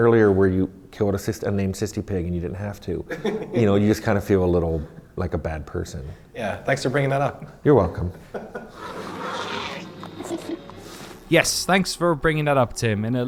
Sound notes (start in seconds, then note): 8.7 squealing; 8.7 snorting